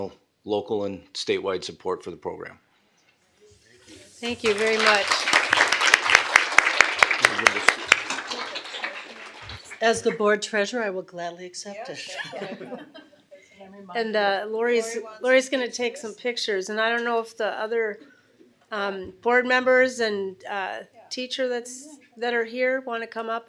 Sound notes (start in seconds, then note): 6.1 applause; 12.0 laughter